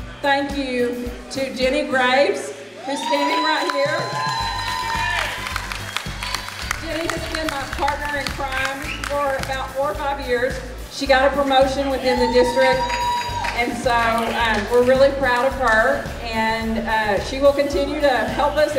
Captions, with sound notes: thank you to Jenny Graves, who's standing right here. [Applause] Jenny has been my partner in crime for about four or five years. She got a promotion within the district and so, we're really proud of her and she will continue to help us and